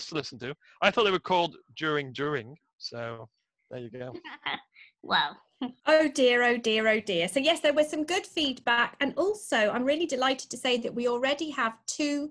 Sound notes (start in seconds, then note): 4.1 laughter